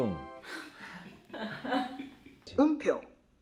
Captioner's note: holding in laughter